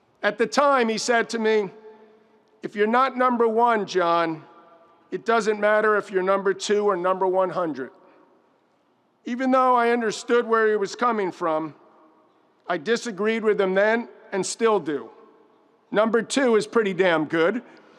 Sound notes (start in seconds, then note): none